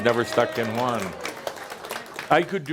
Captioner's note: audience says “Yay!” and some applause